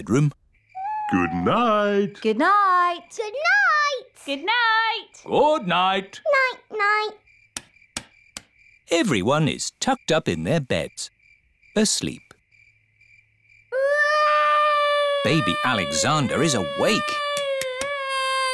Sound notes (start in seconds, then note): 13.7 baby alexander crying